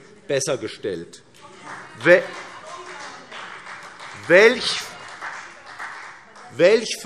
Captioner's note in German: Beifall